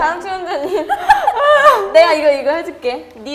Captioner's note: still dying from laughter